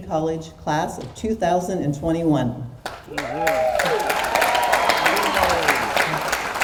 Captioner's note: audience cheers and applauds